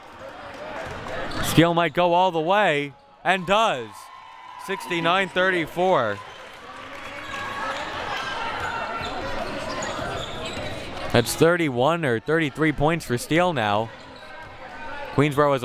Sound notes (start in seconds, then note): 7.0 audience chattering and yelling